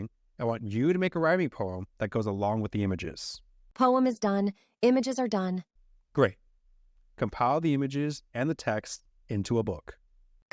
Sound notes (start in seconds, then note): none